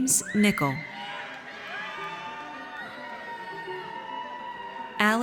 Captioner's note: audience cheers